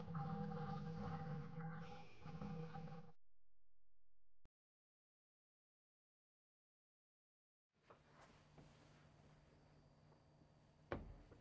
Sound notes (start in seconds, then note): none